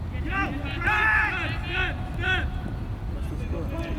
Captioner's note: players shouting